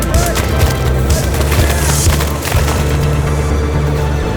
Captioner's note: mud splatting